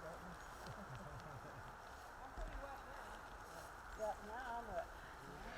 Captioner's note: group talking at a distance